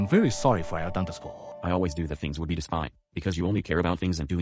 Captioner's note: disappointed Voice